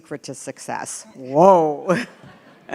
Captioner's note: laughter